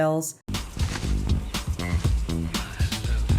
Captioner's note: bouncy music; swish